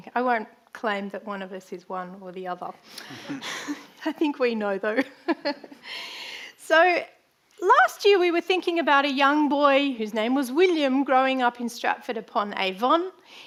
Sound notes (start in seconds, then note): 5.8 chuckles